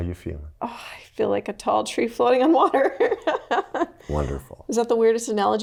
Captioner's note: laughs